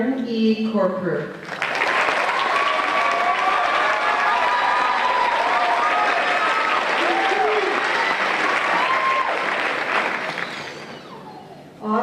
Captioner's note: applause and Cheers